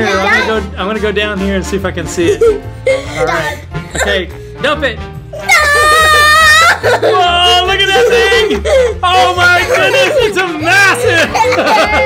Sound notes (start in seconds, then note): 5.4 laughing